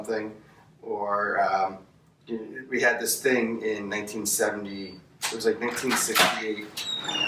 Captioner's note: door swinging